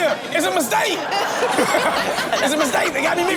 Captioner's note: all laugh